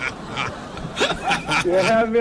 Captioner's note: laughing